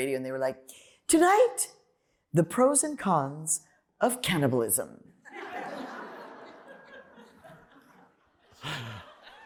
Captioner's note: laughter